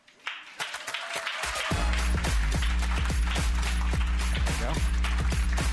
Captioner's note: applause and upbeat music